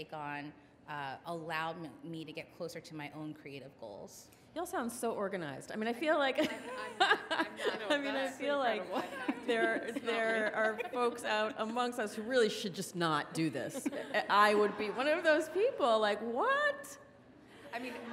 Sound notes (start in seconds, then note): 6.7 laughs